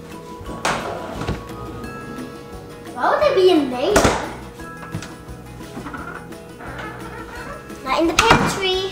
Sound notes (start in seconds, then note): 0.2 refrigerator opening; 3.9 refrigerator closing